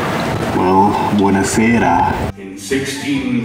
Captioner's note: speaks in foreign language